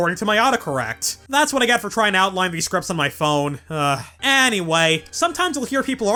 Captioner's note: sigh